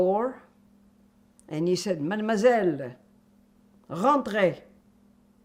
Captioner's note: french